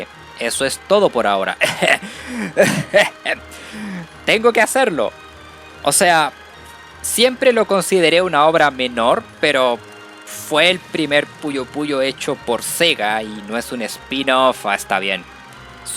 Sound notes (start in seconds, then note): 1.6 cough; 2.4 ahem